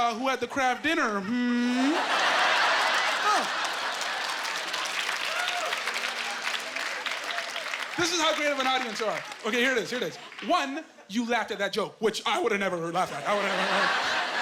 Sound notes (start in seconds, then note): 3.4 laughing